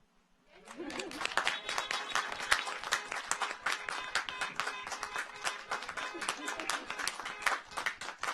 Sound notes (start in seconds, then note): 0.6 audience applauds; 1.4 car horns honking